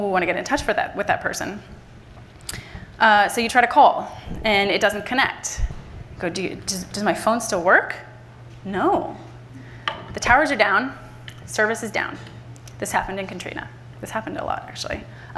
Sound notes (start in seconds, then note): none